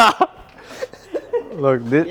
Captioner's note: laughter